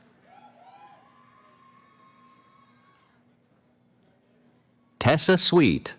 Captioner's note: cheering